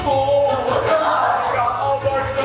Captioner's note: audience laughs